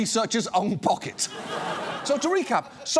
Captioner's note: studio audience laughs